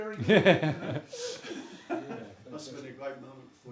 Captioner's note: laughter